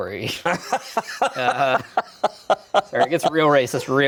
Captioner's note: laughs